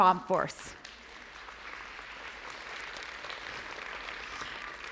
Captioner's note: applause